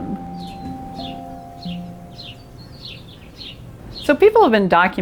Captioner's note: birds chirping